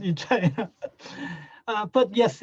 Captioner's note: laughs